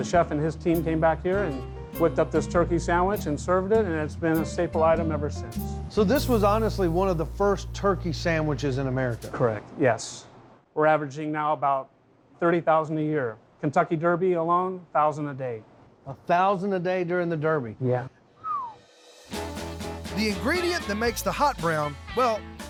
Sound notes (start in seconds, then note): 18.3 whistles